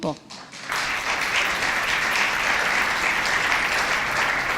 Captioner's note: audience applauds